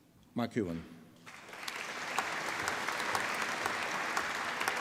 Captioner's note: applause